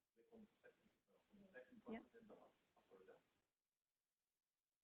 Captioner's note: people talking